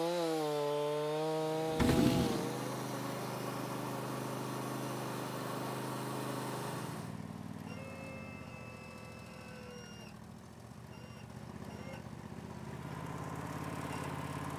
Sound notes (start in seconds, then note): 2.0 bandmill whirring